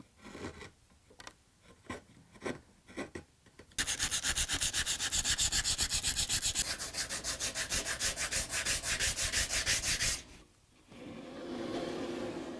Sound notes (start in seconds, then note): 3.8 careful sanding